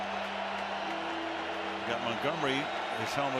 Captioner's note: cheering